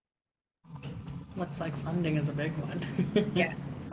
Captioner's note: laughs